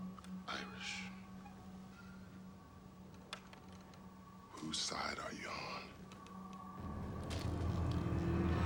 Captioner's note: none